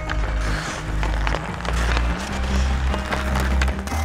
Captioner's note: puck clacking